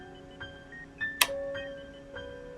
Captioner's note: click